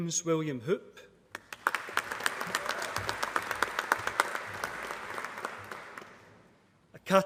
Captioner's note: applause